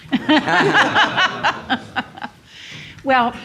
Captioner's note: laugh